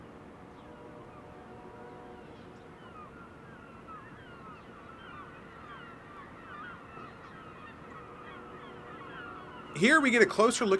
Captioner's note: birds chirping